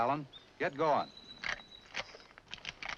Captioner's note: rifle charges